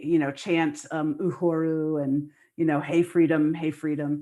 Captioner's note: non-english speech